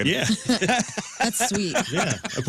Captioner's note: laughter